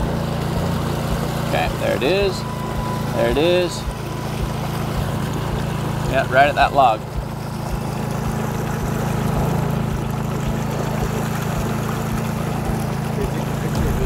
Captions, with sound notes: Okay, there it is, there it is. Yeah, right at that log. (boat motor roaring)